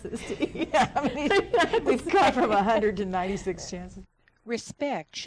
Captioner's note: laughs